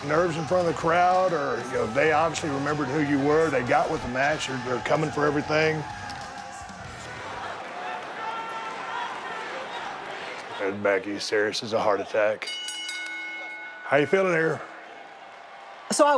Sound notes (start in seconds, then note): 8.0 audience members shouting; 12.4 ring bell sounding